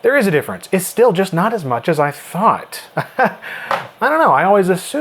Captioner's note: laughs